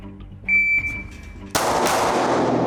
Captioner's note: beeping; gun shooting